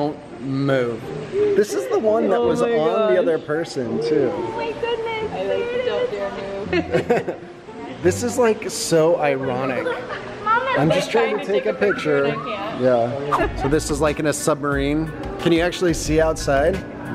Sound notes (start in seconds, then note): 6.6 laughing; 13.2 laughing